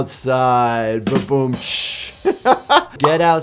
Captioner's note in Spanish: risas